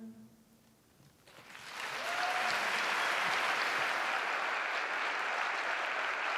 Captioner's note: applause